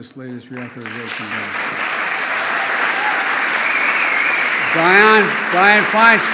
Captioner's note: applause